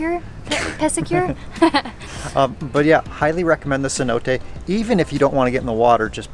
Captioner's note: laughs